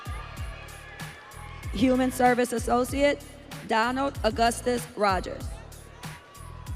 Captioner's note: audience cheering